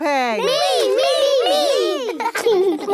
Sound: laughing

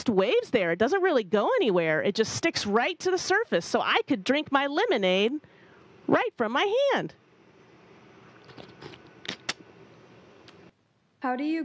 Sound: drinking sounds

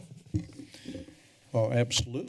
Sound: soft tapping sound

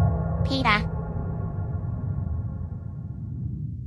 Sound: very creepy and scary FNAF ambience noises

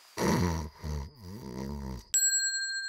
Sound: David snoring; bell dinging

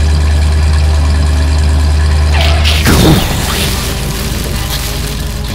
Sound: engine noise; explosion; skid

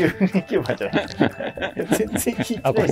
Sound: laughing

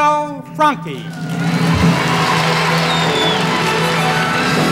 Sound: audience applauding; sweeping orchestra music

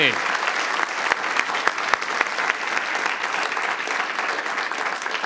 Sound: audience applauding

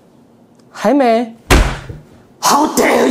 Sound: loud table slam

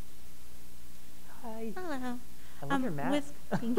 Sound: soft Voice

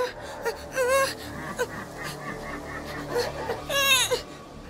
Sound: monster sound

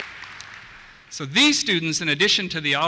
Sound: voiceover

